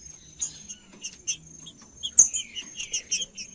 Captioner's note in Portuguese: trinca ferro cantando